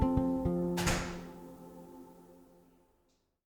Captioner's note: door clicking